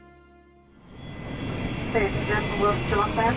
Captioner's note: plane engines whirring; chattering